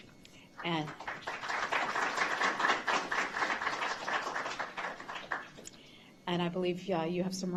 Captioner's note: applause